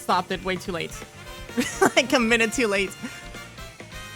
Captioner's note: laughter